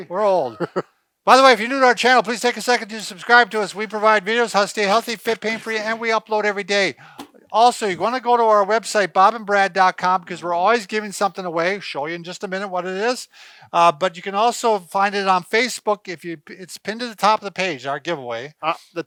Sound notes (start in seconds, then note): 0.2 chuckles